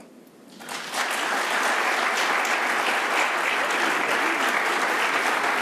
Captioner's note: audience applauding